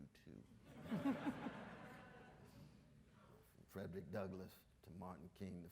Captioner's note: audience laughs